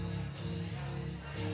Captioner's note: none